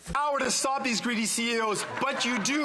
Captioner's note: speaking French